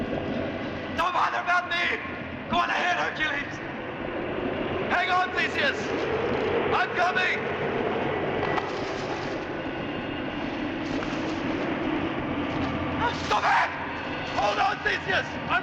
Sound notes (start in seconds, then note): 7.3 wind howling